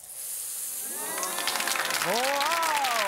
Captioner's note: clapping